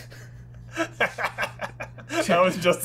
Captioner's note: quiet chuckling